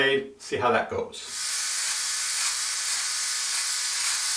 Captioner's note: buzzing